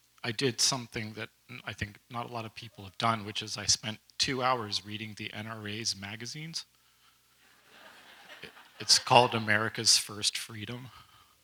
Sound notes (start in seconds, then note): 7.5 audience laughs lightly